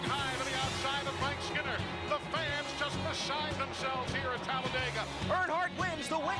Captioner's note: applause